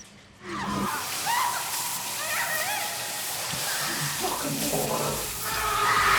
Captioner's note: water splashing; dryer humming; woman shouting; couple shouting